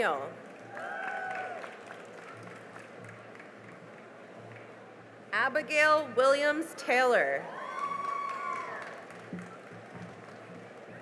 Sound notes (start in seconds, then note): 0.4 cheering and applause; 7.4 cheering and applause